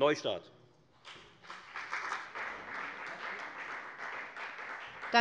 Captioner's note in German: Beifall bei der FDP